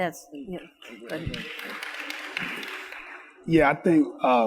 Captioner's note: audience applauds